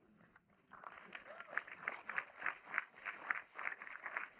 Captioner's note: audience applauding